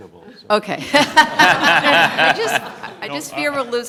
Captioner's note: laughter